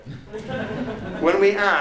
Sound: laughter

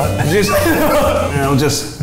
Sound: all laugh

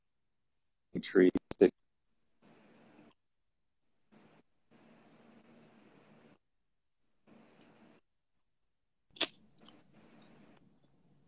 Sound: audio freezes

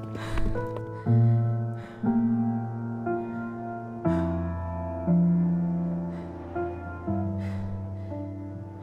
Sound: gasping becomes quieter

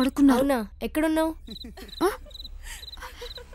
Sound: sound of laughter

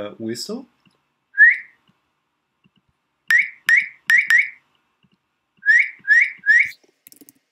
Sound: whistles, edits sound

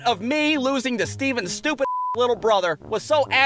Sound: beep

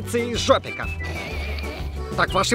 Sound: giggling

